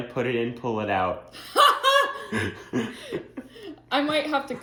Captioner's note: laughs